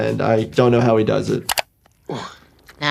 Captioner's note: mouse clicking